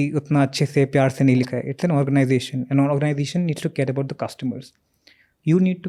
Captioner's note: speaks in Hindi